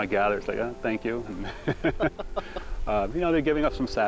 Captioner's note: laughing